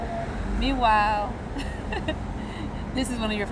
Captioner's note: Ríe; laughs